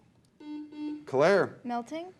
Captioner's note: beep